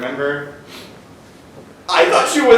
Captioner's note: sniffs